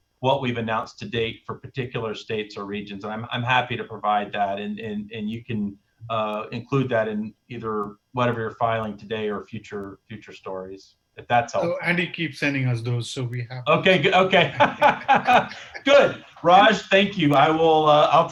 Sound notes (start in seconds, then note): 16.2 laughter